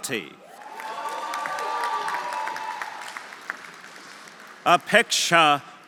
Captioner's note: audience cheering; audience applauding